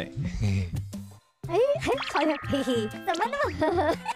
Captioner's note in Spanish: Una risa inocente